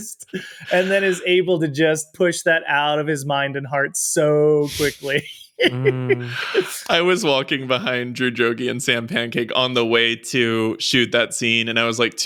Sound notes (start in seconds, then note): 4.6 laughs